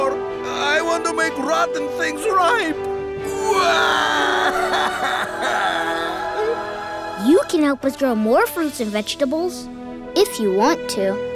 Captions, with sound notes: I want to make rotten things ripe. [crying] You can help us grow more fruits and vegetables. If you want to.